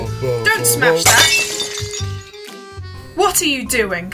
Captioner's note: glass smashes